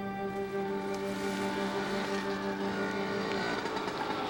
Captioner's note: motor scooter approaches